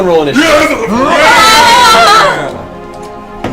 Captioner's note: all yell